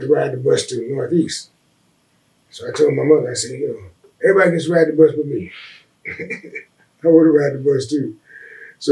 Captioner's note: laughs